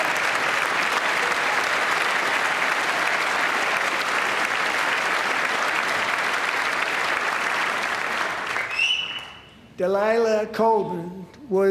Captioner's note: applause